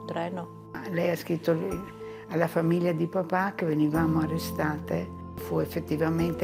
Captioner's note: speaking in foreign language